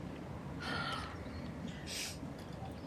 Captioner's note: Charlotte sighs; Tom sniffles